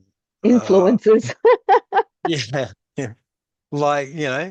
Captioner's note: laughs